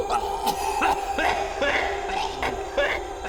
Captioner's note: Danny coughs